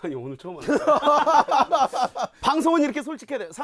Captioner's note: ha ha ha…